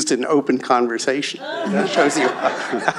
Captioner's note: laughter